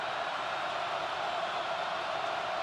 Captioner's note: crowd cheering